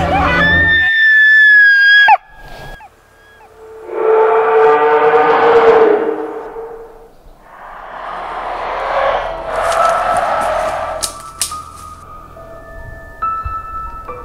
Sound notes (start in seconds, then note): 0.1 high-pitch scream; 3.9 monstrous roar